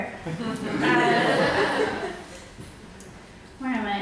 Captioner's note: audience laughs